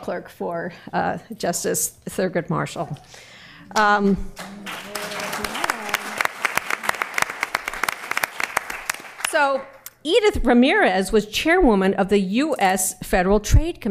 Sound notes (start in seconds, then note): 4.3 applause